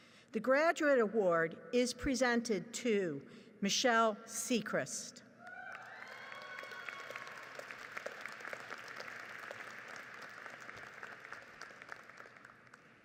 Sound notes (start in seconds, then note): 5.6 audience applauds